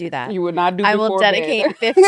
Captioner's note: laughs